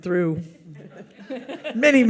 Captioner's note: audience laughs